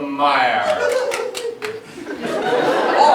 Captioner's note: tittering